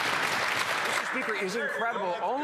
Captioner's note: some Applause